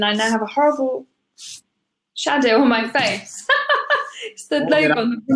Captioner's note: laughs